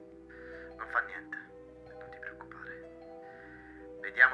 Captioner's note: Giulio on phone